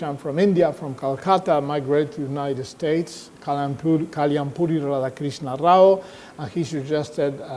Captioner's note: speaks in foreign language